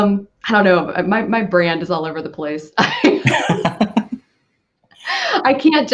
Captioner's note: laughing